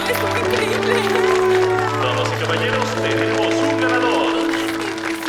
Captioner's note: audience applauds; audience cheers